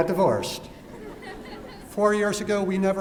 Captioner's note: laughter